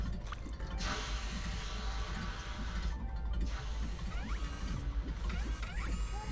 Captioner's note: heart beating; dripping; lens focusing